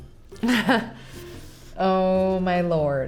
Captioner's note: laughing